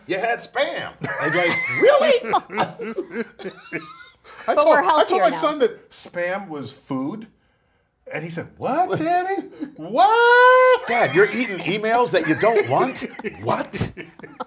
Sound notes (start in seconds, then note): 1.0 laugh